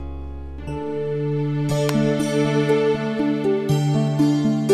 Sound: clapping

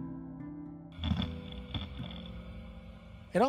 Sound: grinding

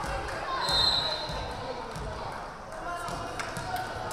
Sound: whistle blaring

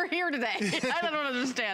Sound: laughter

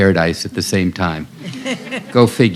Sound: laughter

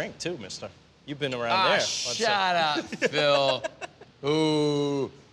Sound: slurring

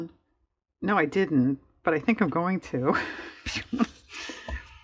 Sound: laughs

